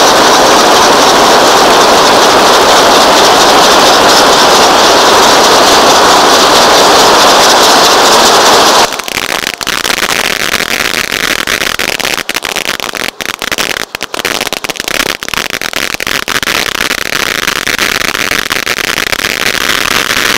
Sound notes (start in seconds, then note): 0.2 fireworks sizzling; 9.1 fireworks crackling